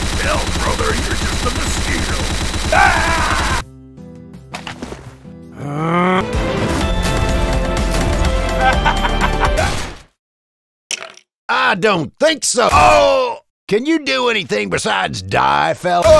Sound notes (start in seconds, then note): 5.5 makes a deep inarticulate sound conveying pain, despair, pleasure, etc; 8.5 evil laugh x2; 10.9 minecraft skeleton hurt sound